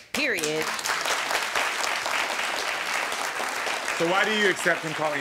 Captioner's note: audience applauding